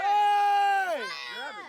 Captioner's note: yells